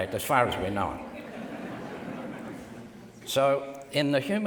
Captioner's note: audience laughs